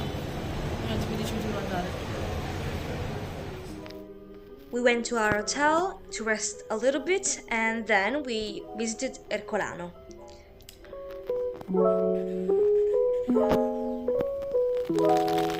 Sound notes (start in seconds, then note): 4.8 in English